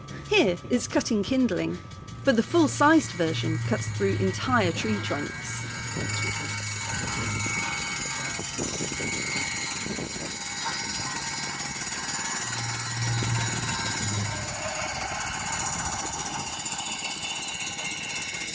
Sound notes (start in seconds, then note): 6.1 buzz saw sound